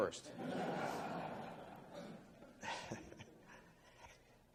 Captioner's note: laughing